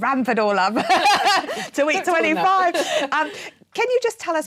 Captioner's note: laughing